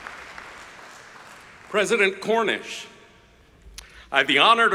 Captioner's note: applause